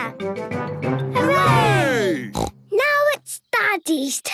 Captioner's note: snort